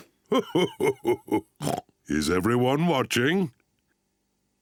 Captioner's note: laughing